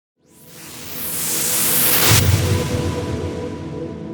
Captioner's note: wooshing